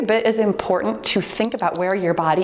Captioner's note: timer beeps